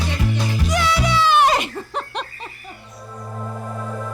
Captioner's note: laughs